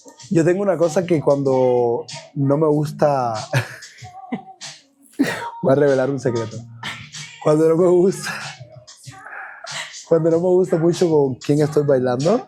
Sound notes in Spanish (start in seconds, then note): 5.2 laughs